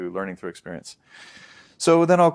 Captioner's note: deep breath